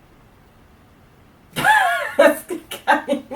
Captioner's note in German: lacht wieder